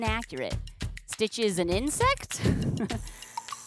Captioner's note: laughs